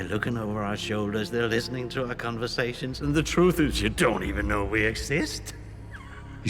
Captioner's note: laughs